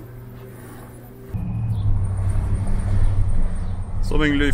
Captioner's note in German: motorbrummen